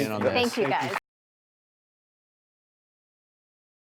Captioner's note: applause